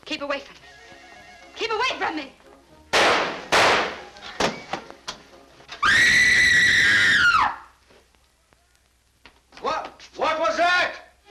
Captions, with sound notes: Keep away from me. Keep away from me. [ Connie screams! ] What? What was that?